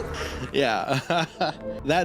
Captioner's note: laughs